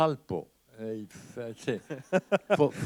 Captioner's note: laughter